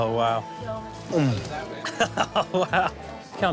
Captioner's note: laughing